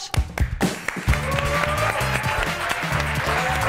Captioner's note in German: Applaus